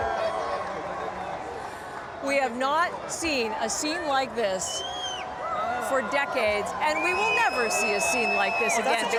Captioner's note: cheering